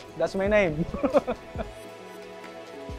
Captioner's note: laughs